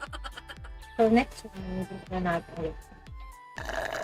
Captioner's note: laugh